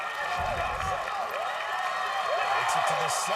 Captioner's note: overlapping shouting